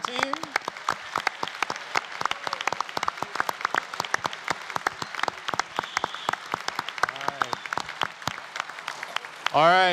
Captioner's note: applause